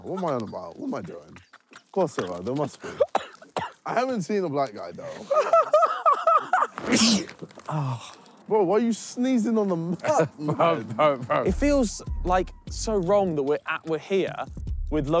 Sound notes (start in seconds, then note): 3.4 choking; 4.8 laughs; 6.6 sneezes